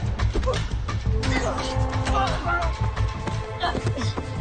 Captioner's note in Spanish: Gruñidos